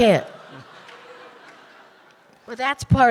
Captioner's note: audience laughing